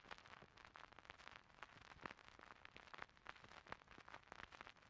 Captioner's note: crackling static